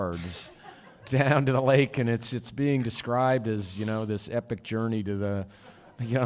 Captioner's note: laughter